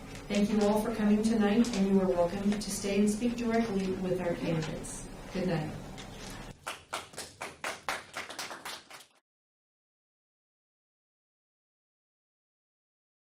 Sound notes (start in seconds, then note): 6.4 audience applauding